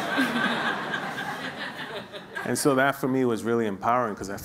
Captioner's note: laughing